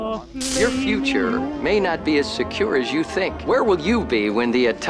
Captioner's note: television